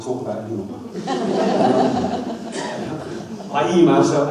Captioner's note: audience laughs